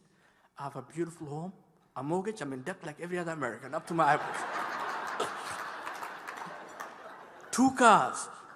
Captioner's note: laughter